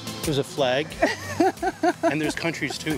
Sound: laughs

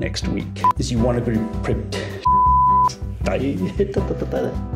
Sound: beeps

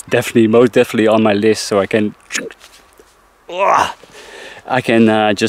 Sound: scratching

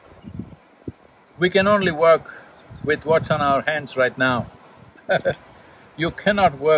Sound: laughs

